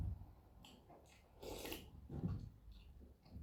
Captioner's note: slurp